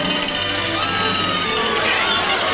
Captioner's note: people screaming